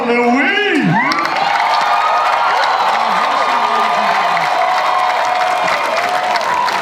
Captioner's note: audience and panelists cheer